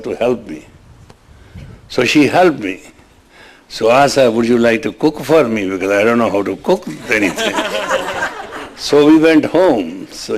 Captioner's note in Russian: смех